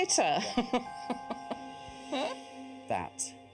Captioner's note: laughter